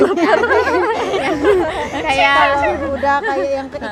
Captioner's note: girls laughing